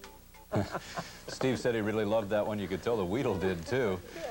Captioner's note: chuckling